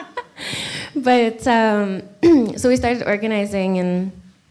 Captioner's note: clears throat